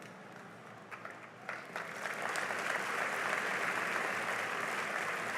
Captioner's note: applause